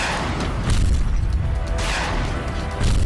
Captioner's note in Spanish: Disparos